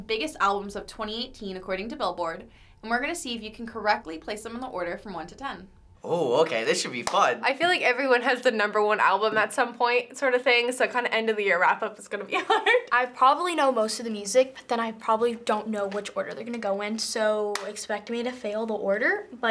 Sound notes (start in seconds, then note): 7.0 claps; 12.3 laughs